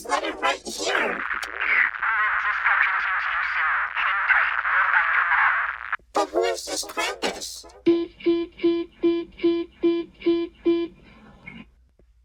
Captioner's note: end Call Tones